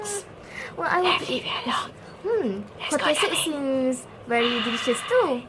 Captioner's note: whispers